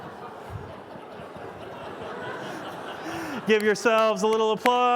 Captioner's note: laughter